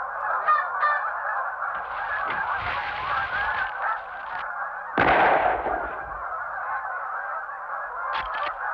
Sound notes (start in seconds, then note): 0.0 geese sounds; 4.9 gunshot